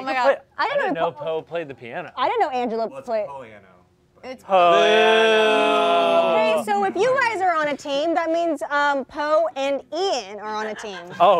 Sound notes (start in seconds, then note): 4.6 all booing